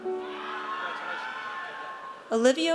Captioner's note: audience cheers